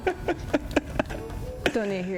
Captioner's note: laughs